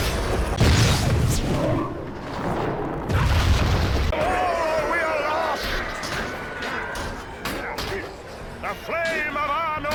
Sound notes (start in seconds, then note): 3.0 ba-boosh